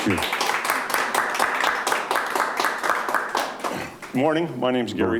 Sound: audience applauding

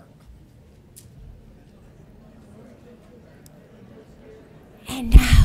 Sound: audience members chattering

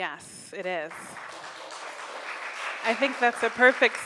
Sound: crowd applauds

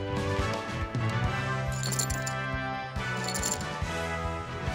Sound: coins clattering

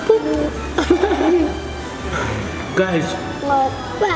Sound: laughs

